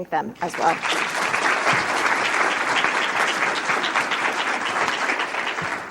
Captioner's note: audience applauding